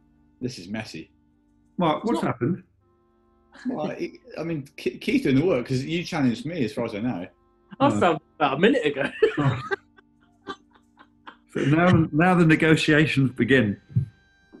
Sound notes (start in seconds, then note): 11.5 laughing